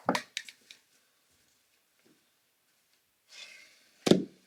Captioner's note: plastic thuds